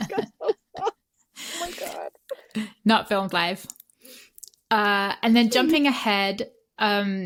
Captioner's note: laughter